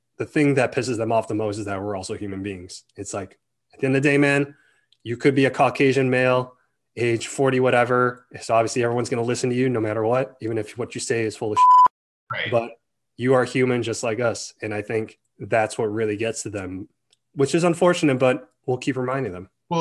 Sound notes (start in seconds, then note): 11.6 beeps